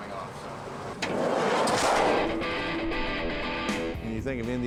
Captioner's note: door slams; rock music